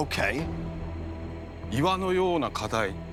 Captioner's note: speaking Japanese